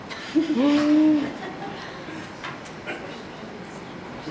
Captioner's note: audience laughs